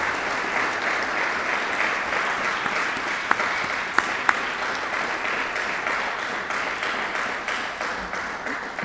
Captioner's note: audience applauding